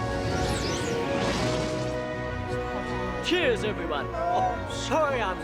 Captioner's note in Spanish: zumbido